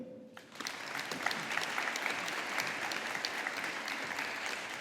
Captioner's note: audience applauding